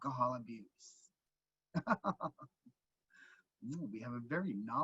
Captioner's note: chuckling